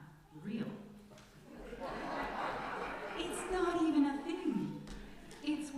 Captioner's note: laughter from congregation